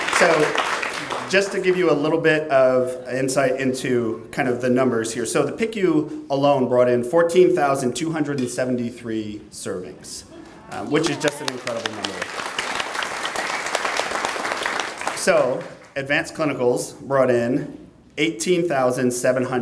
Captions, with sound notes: So just to give you a little bit of insight into, kind of, the numbers here. So the PICU alone brought in 14,273 servings, which is just an incredible number. (clapping) So advanced clinicals brought in 18,731 servings.